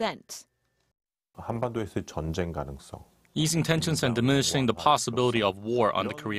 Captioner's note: Korean